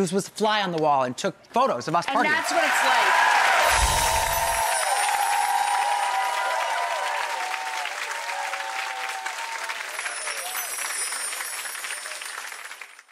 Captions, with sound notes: just was fly on the wall and took photos of us partying. (crowd cheering) And that's what it's like. (crowd applauding)